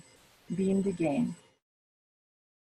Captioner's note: speaks foreign language